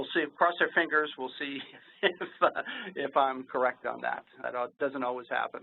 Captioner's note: laughs